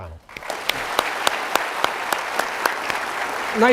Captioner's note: applauding